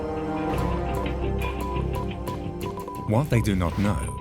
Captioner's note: telegraph beeps